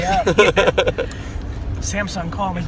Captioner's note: group laughter